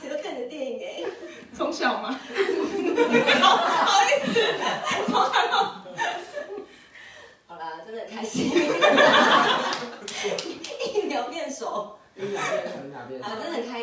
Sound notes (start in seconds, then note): 2.6 laughs